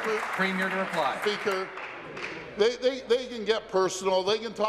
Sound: applause

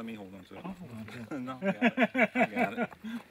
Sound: laughs

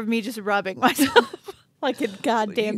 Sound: chuckling

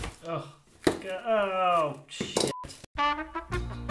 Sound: groans

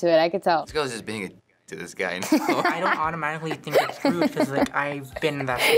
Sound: laughs

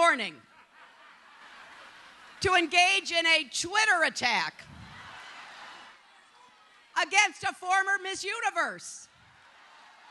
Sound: laughter

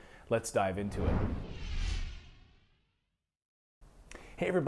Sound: whoosh

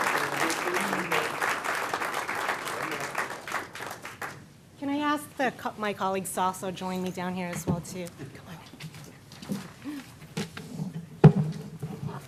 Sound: applause

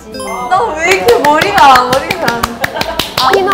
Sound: clap clap clap

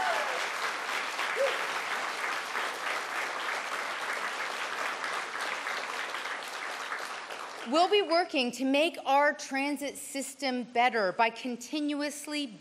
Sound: cheers and Applause

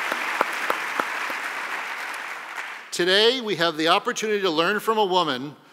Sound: applause

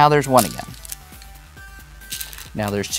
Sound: stones rattling

